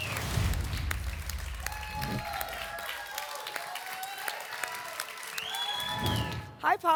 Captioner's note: applause and cheering cont